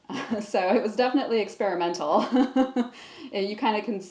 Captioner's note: laughs